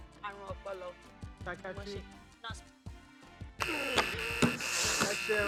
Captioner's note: buzzer pressed